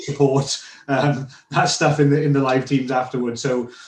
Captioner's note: laughing